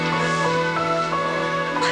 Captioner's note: laughs